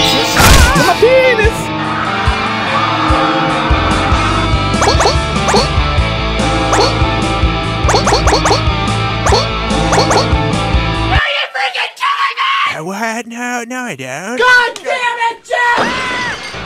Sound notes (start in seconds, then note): 1.7 angry mob